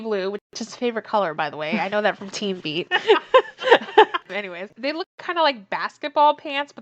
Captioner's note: laughs